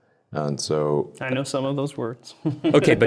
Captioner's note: chuckles